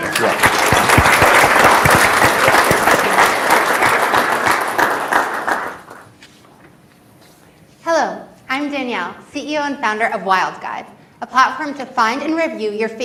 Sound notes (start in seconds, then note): 0.0 audience applauds